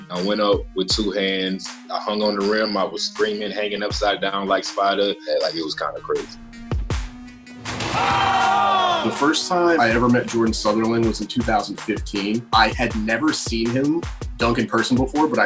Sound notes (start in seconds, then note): 7.4 rap music; 7.7 crowd screaming